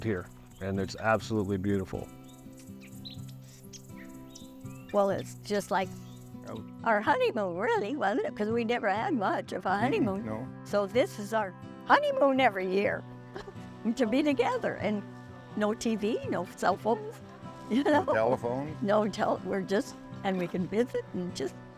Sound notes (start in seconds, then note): 13.7 laugh